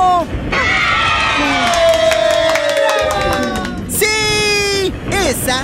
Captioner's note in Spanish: Aplausos